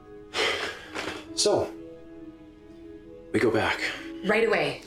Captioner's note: sighs